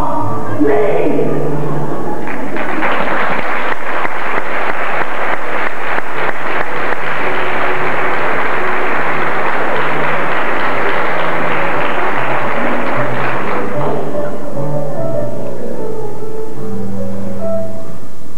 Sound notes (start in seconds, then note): 1.6 laughter; 2.2 applause; 13.7 background music